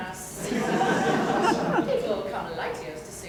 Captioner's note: laughter